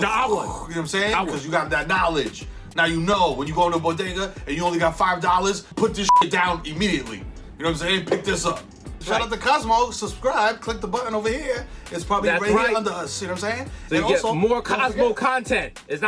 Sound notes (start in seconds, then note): 2.8 bell dings; 6.0 beep